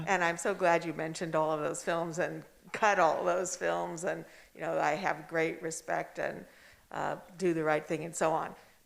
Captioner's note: none